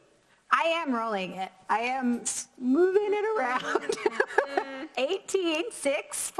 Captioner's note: laughs